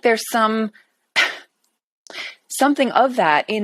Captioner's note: scoffs